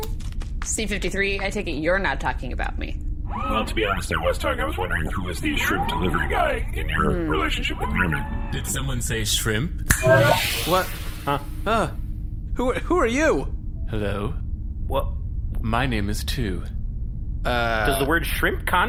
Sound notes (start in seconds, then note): 10.5 snaps fingers